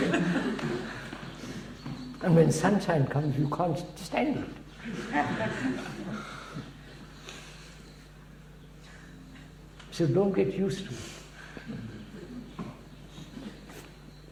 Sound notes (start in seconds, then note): 11.4 laughs